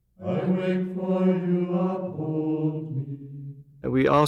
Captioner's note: chanting